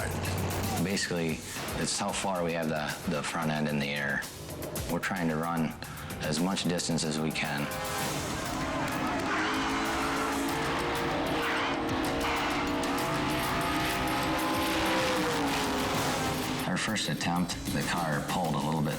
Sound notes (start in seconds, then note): 6.7 anticipatory music; 7.4 engine rumbling